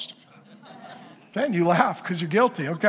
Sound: congregation laughing

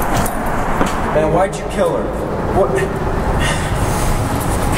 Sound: sighs

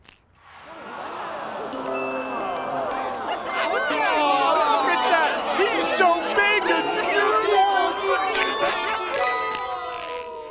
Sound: crowd awwing

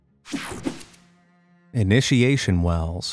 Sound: picture swooshes

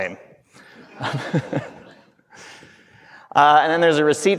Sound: everyone laughing

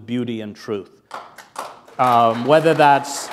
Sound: applause

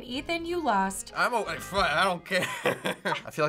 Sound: chuckles

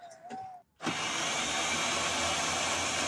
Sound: winching sound

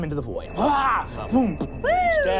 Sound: yells

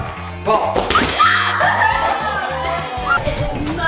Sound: screaming; buzz

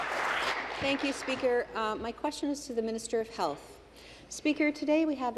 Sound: applause

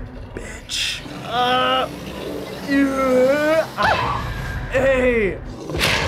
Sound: grunting

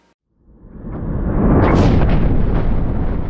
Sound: rumble

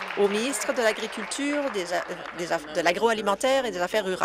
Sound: applause

